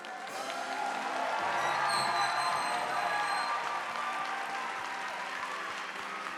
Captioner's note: audience applauding; bright orchestra music